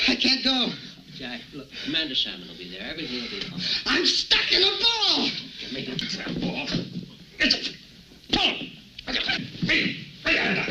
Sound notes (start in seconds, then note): 6.5 struggling and groaning